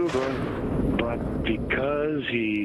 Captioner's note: thunder booming